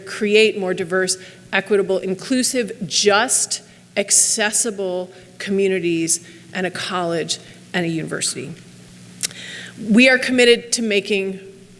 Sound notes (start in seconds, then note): none